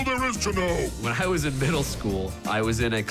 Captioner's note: chuckling